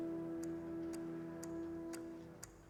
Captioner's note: clock ticking